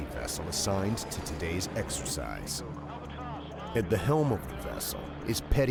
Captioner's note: voiceover